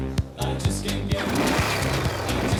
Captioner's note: engine revving